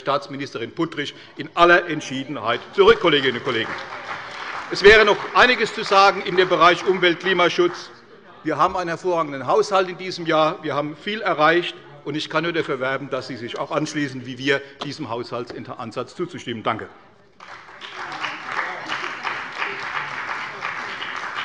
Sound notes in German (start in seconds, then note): 2.8 Beifall bei der CDU; 17.3 Beifall bei der CDU und dem BÜNDNIS 90/DIE GRÜNEN